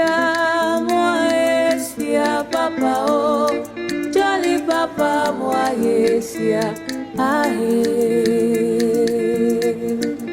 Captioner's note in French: chant